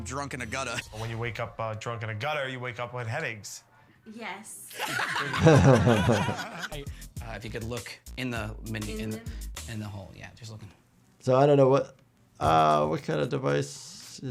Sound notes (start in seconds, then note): 4.7 all laughing